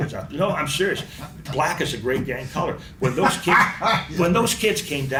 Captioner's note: laughs